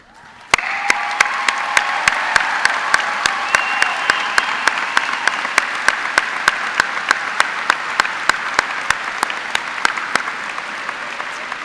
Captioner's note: cheers and applause